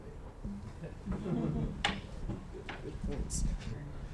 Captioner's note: laughing